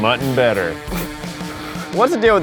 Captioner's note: Zach snorts